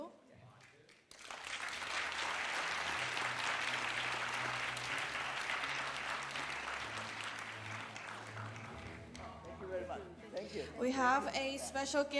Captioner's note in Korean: 박수 갈채